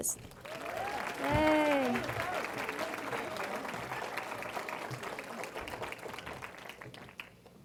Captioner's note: cheering & Applause